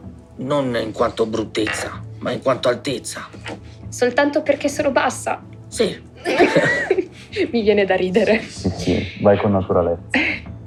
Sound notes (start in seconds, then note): 6.2 laughing